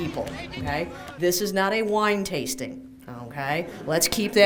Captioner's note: laughter